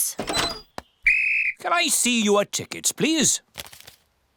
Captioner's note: blows whistle